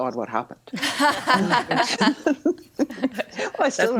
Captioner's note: all laughing